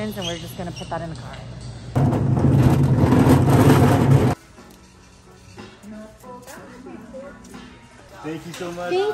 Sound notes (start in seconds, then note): 2.0 trolley rolling; 4.4 christmas music plays